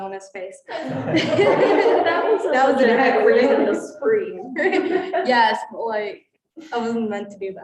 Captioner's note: students laughing